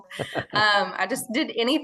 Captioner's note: laughing